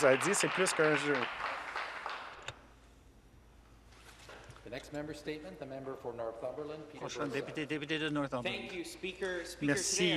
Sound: some Applause

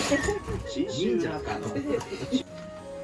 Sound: laughs

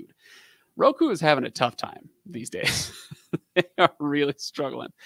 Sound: laughing

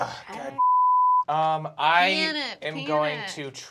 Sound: beep

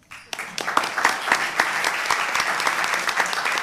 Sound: applause

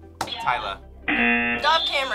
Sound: buzzer sounds

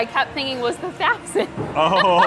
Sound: laughs

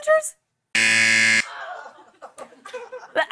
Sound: buzzer

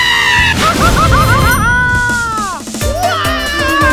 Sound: Mario Screams

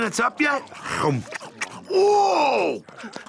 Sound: chomps

